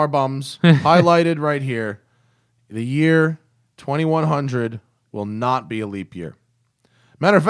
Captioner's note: laughter